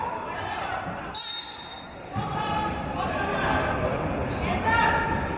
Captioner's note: referee's whistle